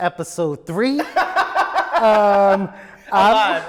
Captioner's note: laughs